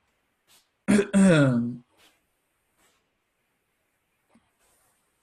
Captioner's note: clears throat